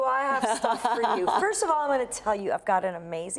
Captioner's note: laughs